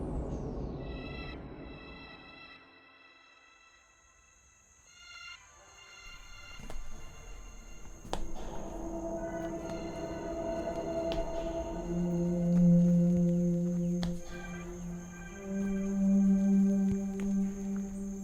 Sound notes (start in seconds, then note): 6.9 footsteps